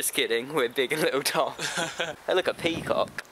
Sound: big tom laughs to conceal crushing lack of self esteem

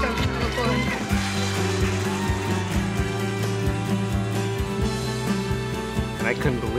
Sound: applause

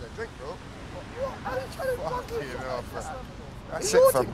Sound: chatter

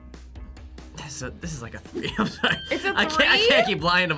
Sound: laughs

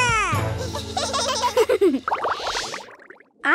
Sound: giggling

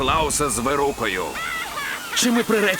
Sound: cackles

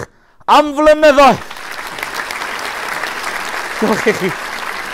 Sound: applause

